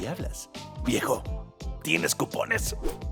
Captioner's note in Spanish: Susurrando